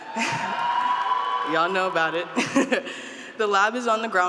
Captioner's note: group cheering